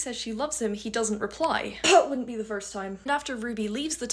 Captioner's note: cough